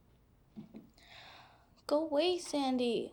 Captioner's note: sighs